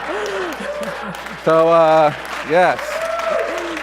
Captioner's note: applause